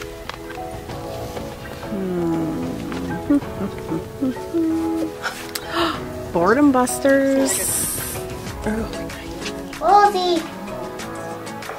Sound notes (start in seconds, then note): 5.2 gasps